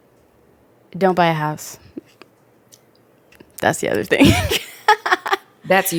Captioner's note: laughs